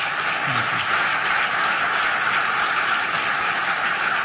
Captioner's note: applause